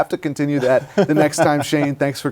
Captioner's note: laughter